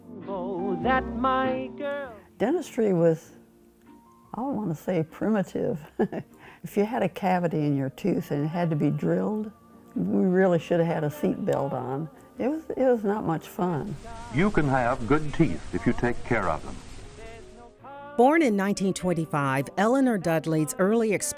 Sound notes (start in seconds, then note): 0.0 jazz music; 5.8 laughs